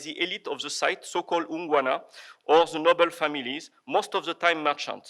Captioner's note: foreign language